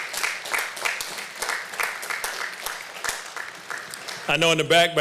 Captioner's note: applause